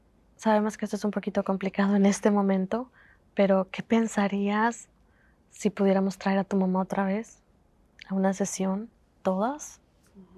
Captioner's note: Spanish